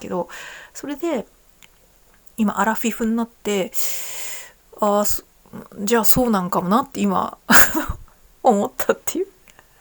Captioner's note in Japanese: 笑い